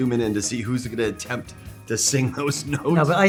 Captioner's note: laughing